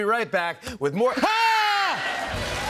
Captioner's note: screams; cheers and applause